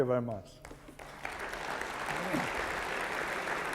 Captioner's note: applause